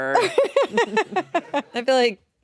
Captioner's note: laughing